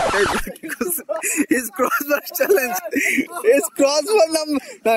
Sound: laughing

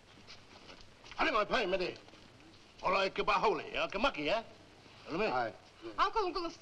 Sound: people speaking in foreign language

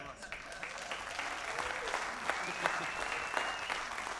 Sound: audience applauds

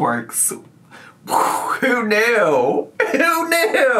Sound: imitates explosion

